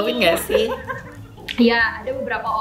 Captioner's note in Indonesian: Laugh